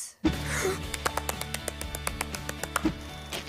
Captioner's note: gasps